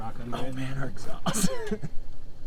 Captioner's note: laughs